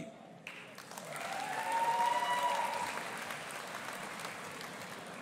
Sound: audience applauding and cheering

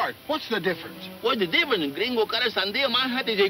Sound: speaking in foreign language

